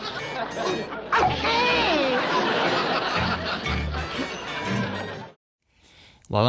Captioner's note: laughter